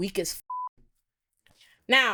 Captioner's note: beep